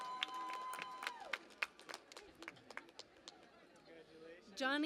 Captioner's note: cheering and Applause